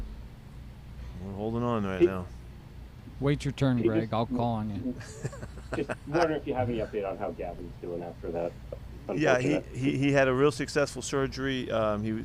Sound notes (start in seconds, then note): 4.9 Pete laughing